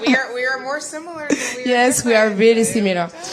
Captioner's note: laughter